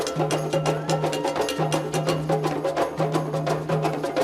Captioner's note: woman cheering